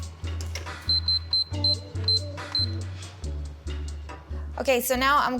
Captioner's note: buttons beeping